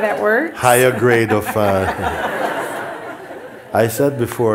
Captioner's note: laughter